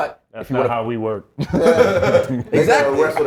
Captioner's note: laugh